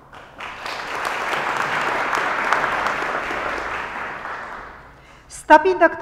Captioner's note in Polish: oklaski